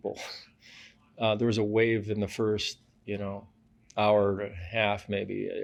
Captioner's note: laughs